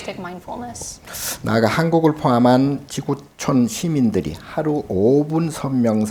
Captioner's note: speaking Korean